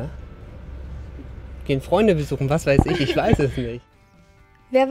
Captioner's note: laughter